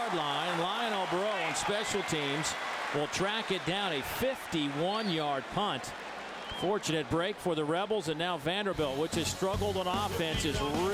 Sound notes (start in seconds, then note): 0.0 crowd noise